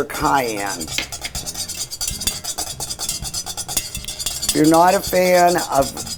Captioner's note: whisk scraping